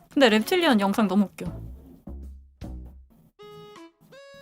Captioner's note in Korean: none